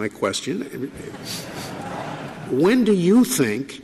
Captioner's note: audience laughing